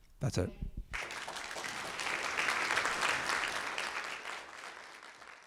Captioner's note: audience applauding